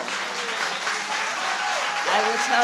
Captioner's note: applause